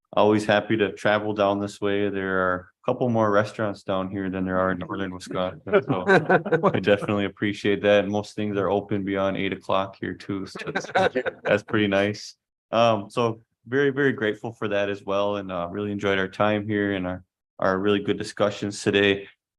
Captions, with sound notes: always happy to travel down this way. There are a couple more restaurants down here than there are in northern Wisconsin. I definitely appreciate that. And most things are open beyond eight o'clock here too. [laughter] That's pretty nice. Um, so very, very grateful for that as well. And, uh, really enjoyed our time here and our, our really good discussions today.